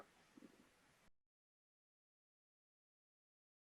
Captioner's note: silence